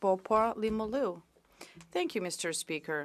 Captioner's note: speaking French